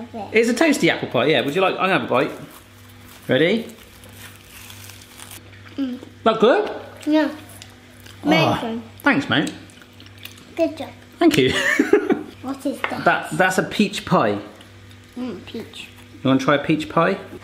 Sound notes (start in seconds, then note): 5.2 crunching